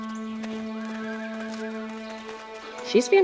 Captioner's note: light music; horse whinnying